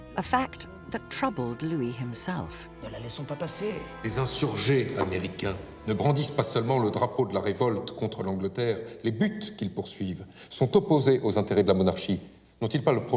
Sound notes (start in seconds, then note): 2.9 men speaking in French